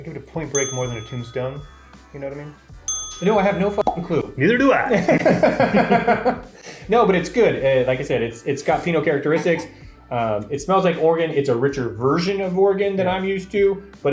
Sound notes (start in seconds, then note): 4.1 pop; 4.8 both laugh